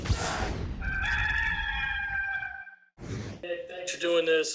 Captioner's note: rooster crows